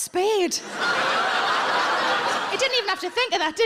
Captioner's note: audience laughs